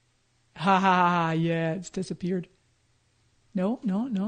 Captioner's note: laughs